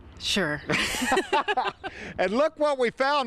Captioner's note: both laugh